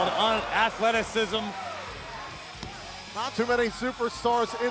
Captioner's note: crowd cheering